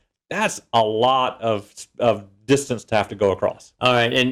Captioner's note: laugh